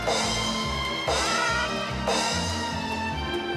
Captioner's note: squawks